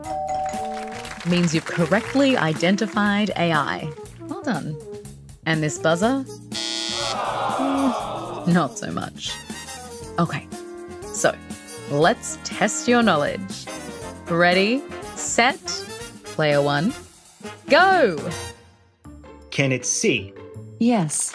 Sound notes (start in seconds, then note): 0.0 SOT: ding; 6.5 SOT: buzzer, crowd sigh